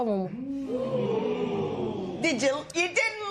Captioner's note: spectators ooh